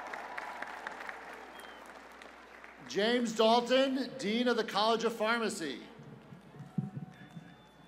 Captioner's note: applause